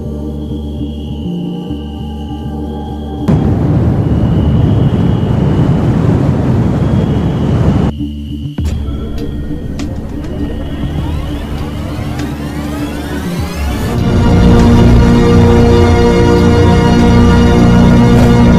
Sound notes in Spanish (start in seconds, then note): 3.2 Sonido de Mochila Propulsora; 14.2 Sonido Infernal de TV